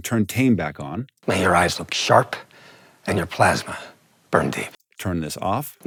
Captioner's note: movie dialogue plays